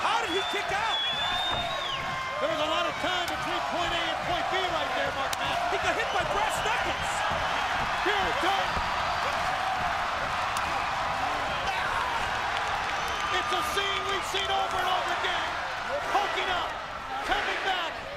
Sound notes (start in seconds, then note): 0.0 crowd cheering; 6.9 crowd cheering